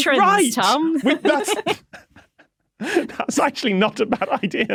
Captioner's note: wheeze